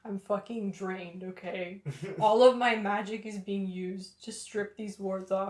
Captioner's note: laughter